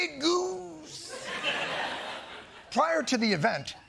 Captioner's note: laughter